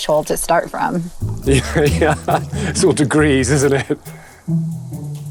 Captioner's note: chuckles